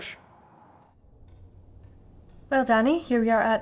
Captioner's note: clock ticking